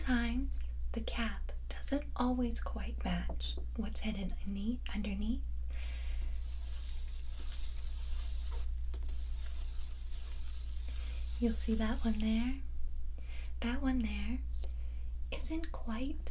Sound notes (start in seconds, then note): 6.6 paper sounds